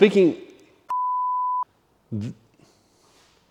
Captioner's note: beep